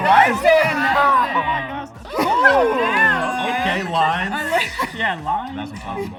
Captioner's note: excited chatter